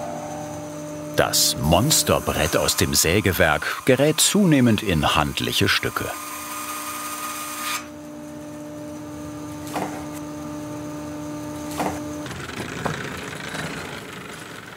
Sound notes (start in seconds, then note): 6.3 soft buzzing